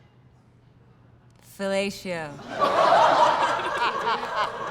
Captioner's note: laughter